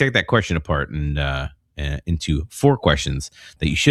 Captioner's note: uh